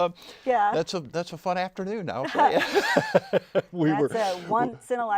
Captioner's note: laughing